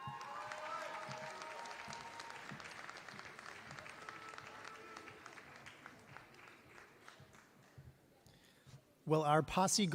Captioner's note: applause